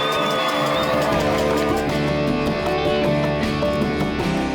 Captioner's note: cheers and applause; upbeat music